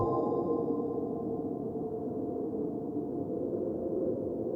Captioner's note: wind howls